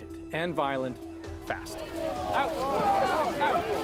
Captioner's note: crowd noise